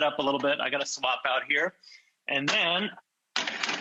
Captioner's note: plates clanging